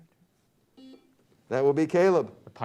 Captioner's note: buzzer beeps